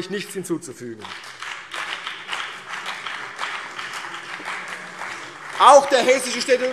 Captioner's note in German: Beifall CDU und BÜNDNIS 90/DIE GRÜNEN